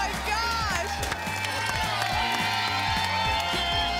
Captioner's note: applause and cheering cont